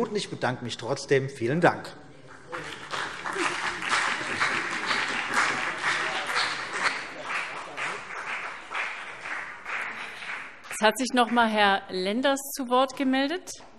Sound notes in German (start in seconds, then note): 2.3 Beifall BÜNDNIS 90/DIE GRÜNEN und vereinzelt CDU